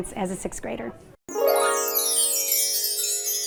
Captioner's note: chime sound